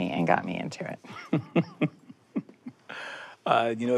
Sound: laughs

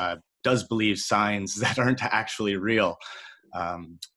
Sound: chuckles

